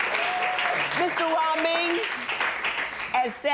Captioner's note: audience cheering